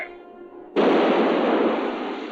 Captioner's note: canon blasting